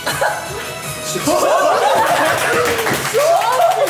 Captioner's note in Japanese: 笑い